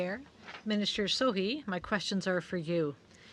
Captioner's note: speaking French